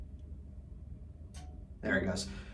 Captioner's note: clicking